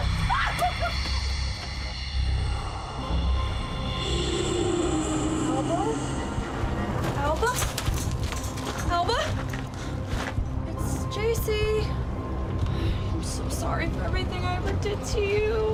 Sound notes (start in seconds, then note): 0.0 screams; 3.9 spooky sounds